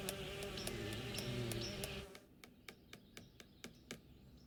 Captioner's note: tapping